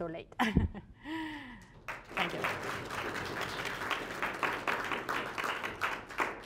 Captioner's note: applause